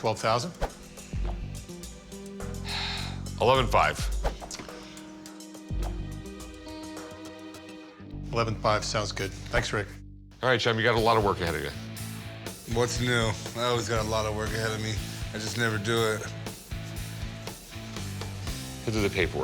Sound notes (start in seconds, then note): 2.4 sighs